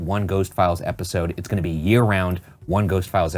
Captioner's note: none